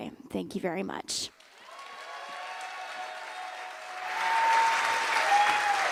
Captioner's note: cheers and applause